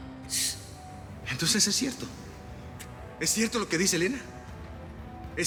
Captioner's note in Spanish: silbido